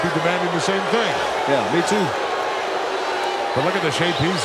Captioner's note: audience cheering